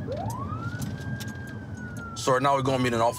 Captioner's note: siren